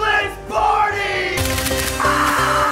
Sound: camera shutter clicks; shrieking

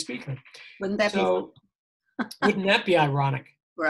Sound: laughing

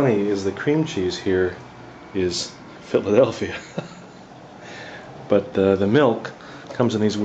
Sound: laugh

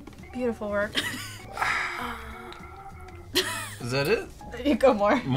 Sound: exhales

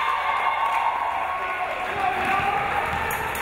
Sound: crowd cheering

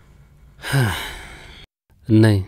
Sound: sighs

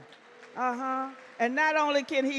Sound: audience clap

